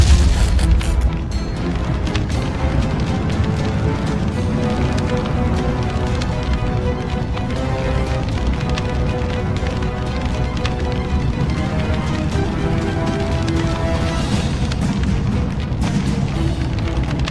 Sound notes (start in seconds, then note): 1.9 flames whooshing